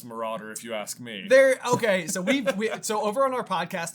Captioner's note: laughter